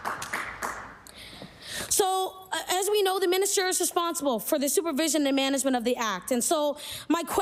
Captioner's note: applause